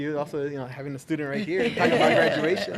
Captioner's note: laughing in unison